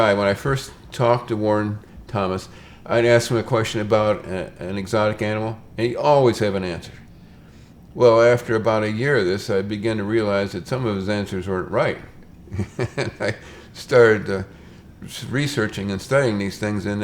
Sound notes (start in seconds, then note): 12.4 laughs